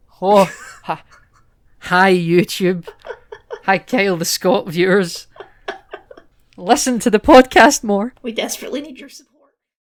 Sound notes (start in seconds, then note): 5.1 laughter